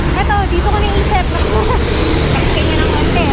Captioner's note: laughs